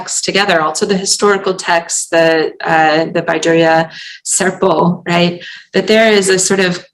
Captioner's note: non-english